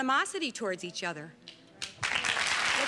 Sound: applause

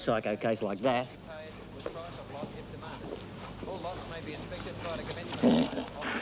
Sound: announcer speaking through PA

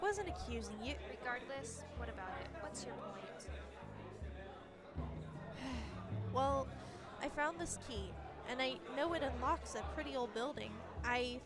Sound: sigh

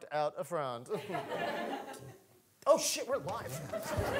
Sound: audience laughing

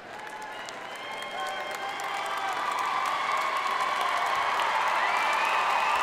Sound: audience cheering and applauding

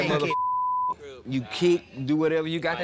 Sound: beep

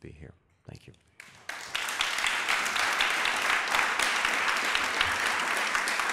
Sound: applause

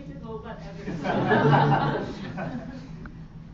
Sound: audience laughter

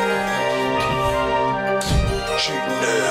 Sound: door slams

